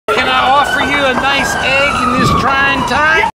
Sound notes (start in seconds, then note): 0.1 sirens and gunfire in background